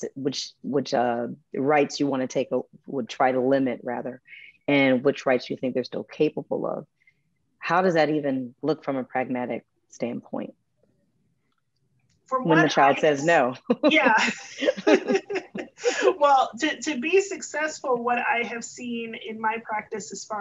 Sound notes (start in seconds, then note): 13.6 chuckles; 15.3 both chuckles